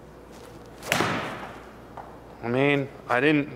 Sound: ball thuds

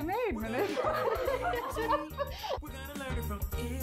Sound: laugh

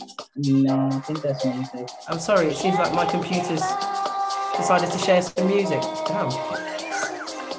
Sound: laughs

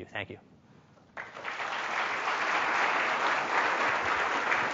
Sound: applause

